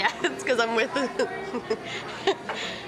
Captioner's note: laughs